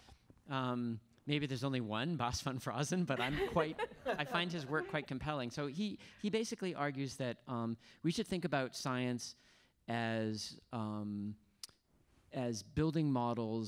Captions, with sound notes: maybe, there's only one, Bas van Fraassen, that I'm quite, (laughing) I find his work quite compelling. So he basically argues that we should think about science as building models and making predictions